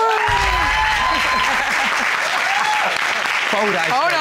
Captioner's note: cheering